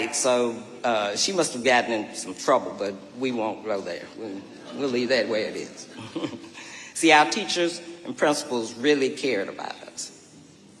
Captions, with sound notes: So, uh... she must have gotten in some trouble. But we won't go there. We'll leave that where it is. (chuckles) See, our teachers and principals really cared about us.